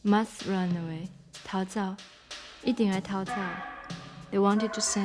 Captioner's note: speaking Taiwanese